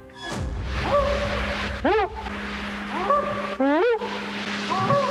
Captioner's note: whooping